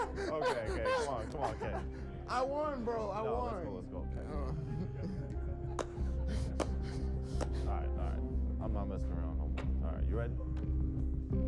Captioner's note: laughter